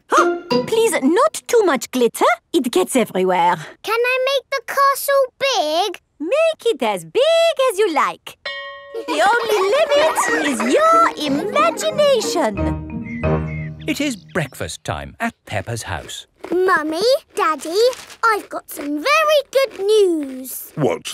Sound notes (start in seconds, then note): 8.4 school bell rings; 8.9 children laughing